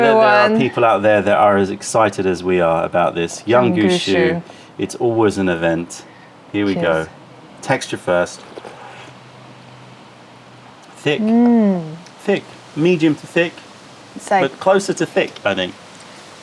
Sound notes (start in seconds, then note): 8.4 sips tea; 11.3 sips tea